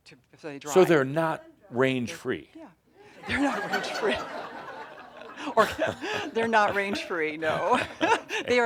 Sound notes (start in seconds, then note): 3.1 laughter; 6.9 they chuckle